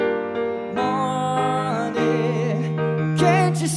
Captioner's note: none